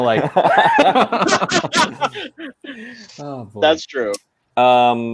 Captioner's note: laughing